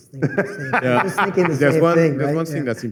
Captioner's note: laughter